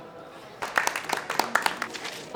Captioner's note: applause